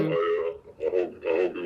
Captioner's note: altered male voice